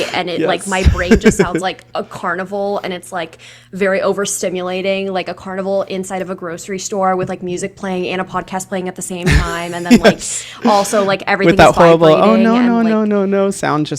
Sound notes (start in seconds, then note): 9.2 laughs